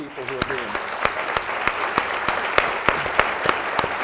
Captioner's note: applauding